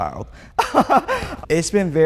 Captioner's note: laughs nervously